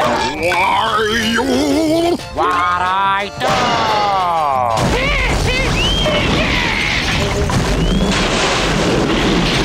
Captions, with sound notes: Why you! What'd I do? [screaming]